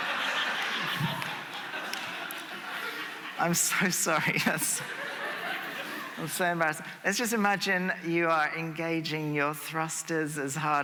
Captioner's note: laughter